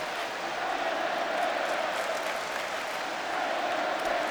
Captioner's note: crowd clamoring